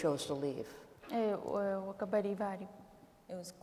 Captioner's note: speaking kurdish